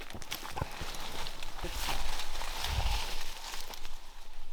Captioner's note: brush rustling